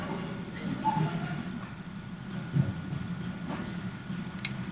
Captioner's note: heartbeats